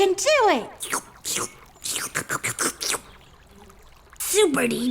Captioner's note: slurping soup